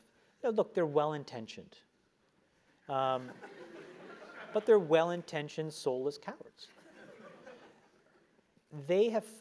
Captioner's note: laugh